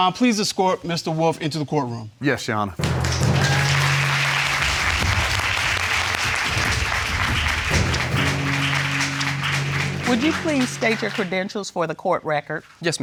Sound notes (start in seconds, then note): 2.8 dramatic music playing; 2.8 audience applauding